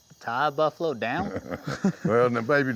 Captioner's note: laughter